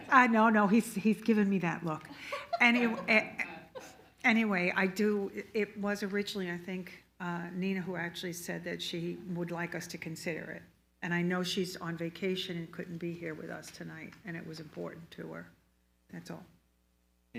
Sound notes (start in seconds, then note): 2.2 all laughs loudly